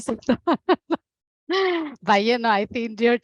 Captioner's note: laughing